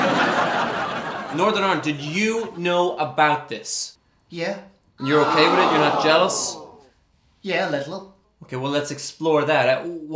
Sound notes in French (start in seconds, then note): 0.0 le public rit; 5.0 public: HOO!